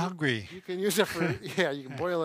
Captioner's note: laughing gently